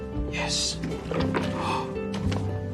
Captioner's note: gasps; guitar strumming